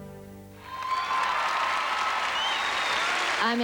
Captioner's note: applause